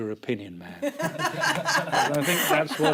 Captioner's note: laughter